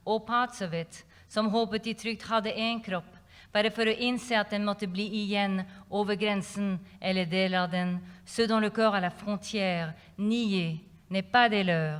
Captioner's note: non-english speech